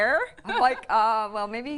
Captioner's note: laughs